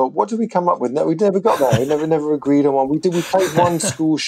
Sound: laughter

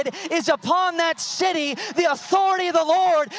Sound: audience cheering

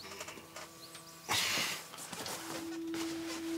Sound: sighs

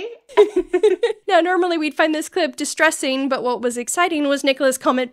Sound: laughter

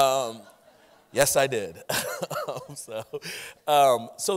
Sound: chuckling

